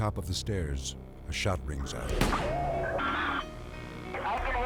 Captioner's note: gunshot popping